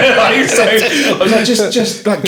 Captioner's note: laughing